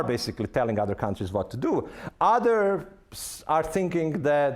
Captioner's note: none